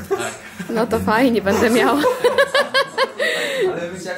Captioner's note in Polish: śmiech